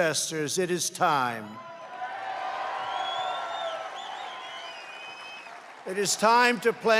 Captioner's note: applause